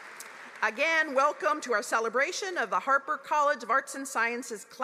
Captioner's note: applause